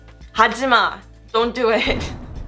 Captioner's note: foreign language; whooshing